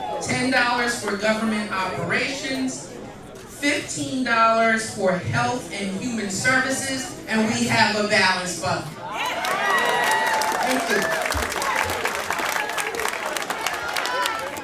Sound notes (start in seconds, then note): 10.6 cheers and applause